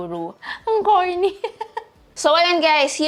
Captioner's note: giggles